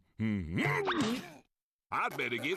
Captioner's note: moans